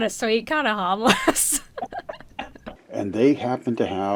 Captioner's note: both laugh